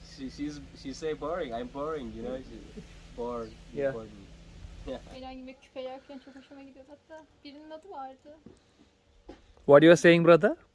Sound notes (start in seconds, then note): 3.2 speaking in foreign language